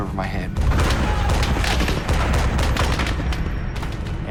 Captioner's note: rapid machine gun fire